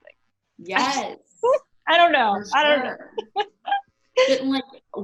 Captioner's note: laughs